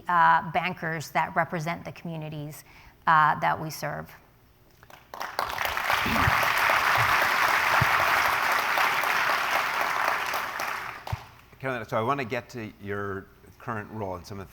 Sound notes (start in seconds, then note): 4.8 applause